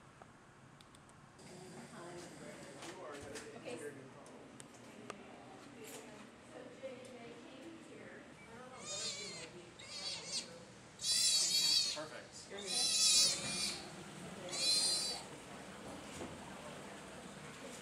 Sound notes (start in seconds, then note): 9.4 otter crying